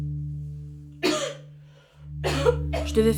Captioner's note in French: Tousse